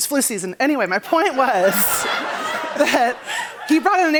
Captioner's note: laughter